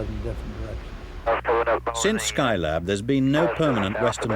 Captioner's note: garbed voices on radio